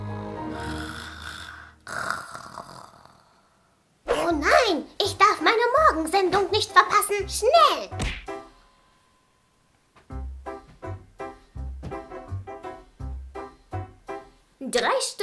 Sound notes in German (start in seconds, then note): 0.5 Schnarchgeräusch